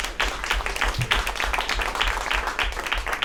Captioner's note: applause